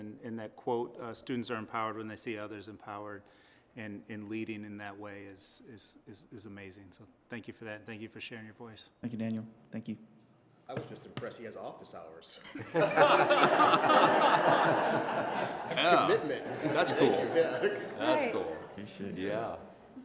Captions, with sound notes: And that quote-- students are empowered when they see others empowered-- and leading in that way is amazing. So thank you for that. Thank you for sharing your voice. >> Thank you, Daniel. Thank you. >> I was just impressed he has office hours. [LAUGHTER] That's commitment. That's cool. >> Thank you, yeah. >> That's cool. >> Yeah.